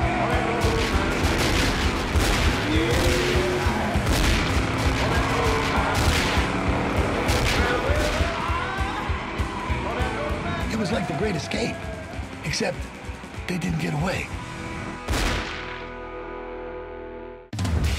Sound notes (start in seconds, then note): 0.6 gunshots continue